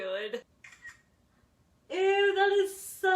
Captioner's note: camera shutter sound